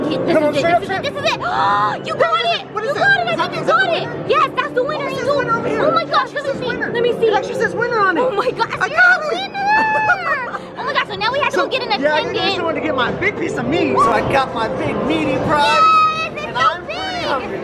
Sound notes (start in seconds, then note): 2.4 gasps